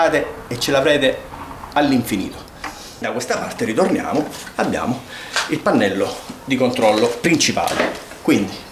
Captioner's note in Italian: sbuffare